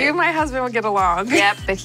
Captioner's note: laughs